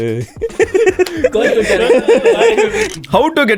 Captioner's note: group laughs